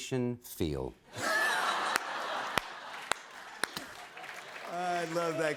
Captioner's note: laughter